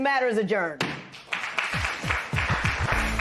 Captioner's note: applause